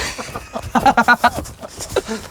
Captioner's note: laughter